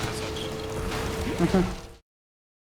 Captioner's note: laughs